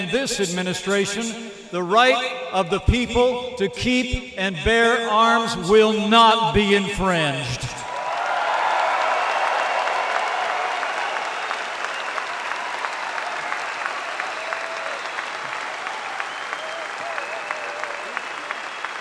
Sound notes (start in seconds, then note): 7.8 applause